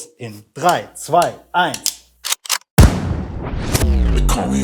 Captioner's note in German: Schuss